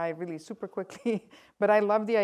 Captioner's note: laughs